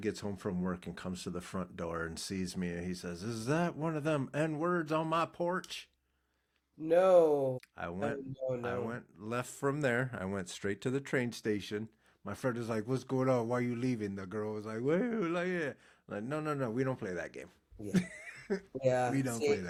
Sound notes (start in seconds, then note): 17.9 laughing